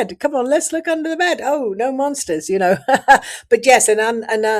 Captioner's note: laughs